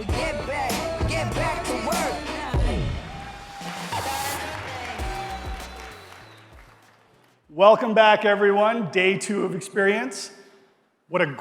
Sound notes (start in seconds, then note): 3.6 audience cheering